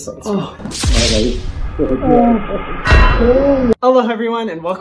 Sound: he groans; GTA death sound

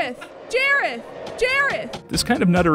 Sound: laughs

